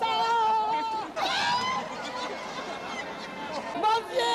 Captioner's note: screams, laughter